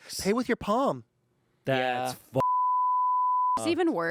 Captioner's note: beep